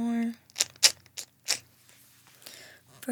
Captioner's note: clicking